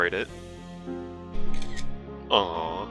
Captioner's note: camera Snaps